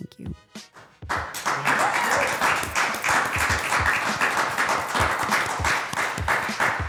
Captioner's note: upbeat music; everyone applauds